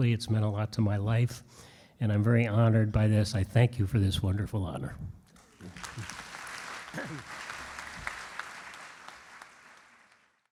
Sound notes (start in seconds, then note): 5.3 audience claps; 6.9 clears throat